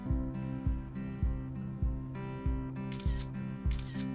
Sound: camera clicking

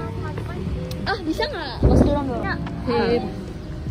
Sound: arguing

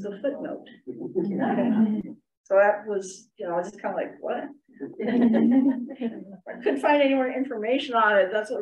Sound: laughter

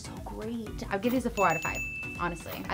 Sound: bell ringing

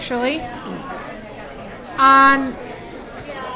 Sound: people continue to talk

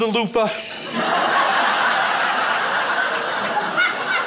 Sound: crowd laughs

